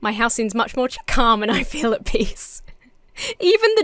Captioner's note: laughs